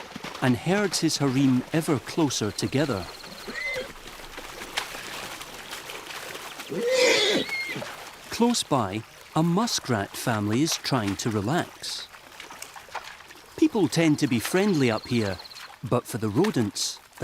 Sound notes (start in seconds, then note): 6.6 horse whinnies